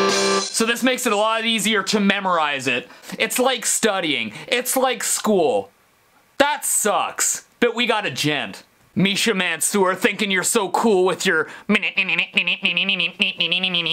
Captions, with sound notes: So this makes it a lot easier to memorize it. It's like studying. It's like school. That sucks, but we gotta djent. Misha Mansoor thinking you're so cool with your... *mimicing breakdown*